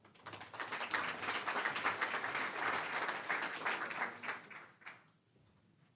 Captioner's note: applause